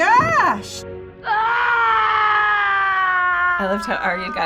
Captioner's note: Catelyn wailing